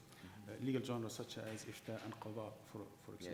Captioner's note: speaking in foreign language